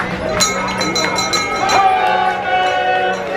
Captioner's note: bell ringing